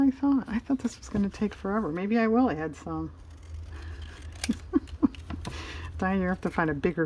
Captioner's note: laughs